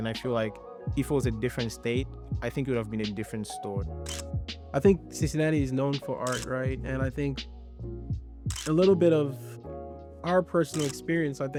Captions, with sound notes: and I feel like if it was a different state, I think it would've been a different story. (camera clicks) I think Cincinnati is known for art, right? And I think, a little bit of our personal experience,